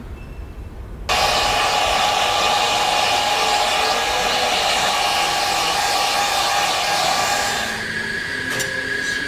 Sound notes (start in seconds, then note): 1.1 hair dryer sounds; 7.3 singing